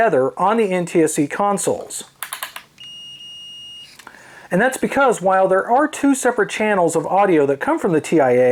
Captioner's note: continuity beep